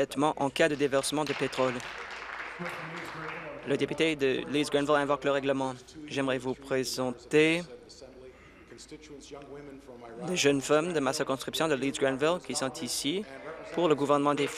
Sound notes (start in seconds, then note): 4.7 applause